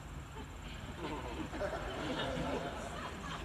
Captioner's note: laughter